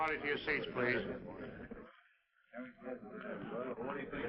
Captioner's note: chatter